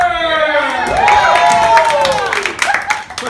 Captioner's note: applause